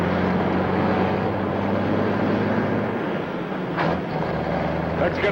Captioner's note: engine whirring continues